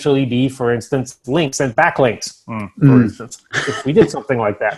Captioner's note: chuckles